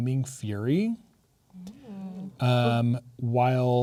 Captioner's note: players "ooh-"ing